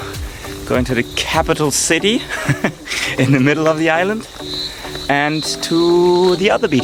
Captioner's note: laughing